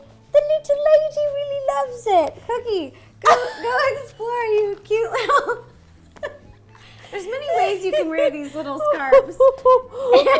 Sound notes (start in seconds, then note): 4.9 laughs